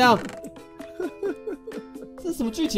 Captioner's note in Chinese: 笑～